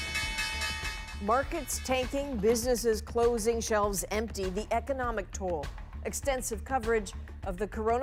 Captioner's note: bell ringing